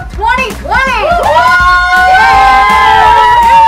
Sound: cheering

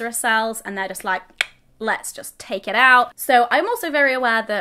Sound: clicks

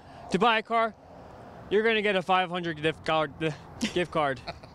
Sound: stammers

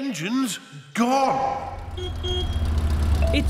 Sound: horn honks

